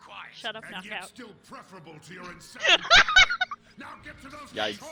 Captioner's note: laughs